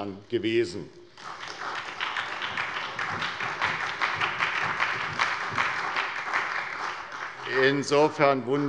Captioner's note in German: Beifall bei der SPD